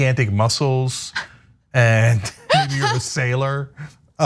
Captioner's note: laugh